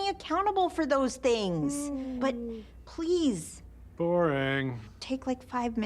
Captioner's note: yawns mockingly